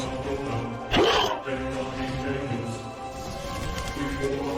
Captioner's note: monster Roar